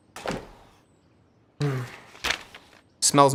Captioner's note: sniffs